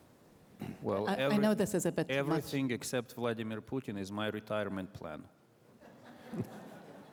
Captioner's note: laughter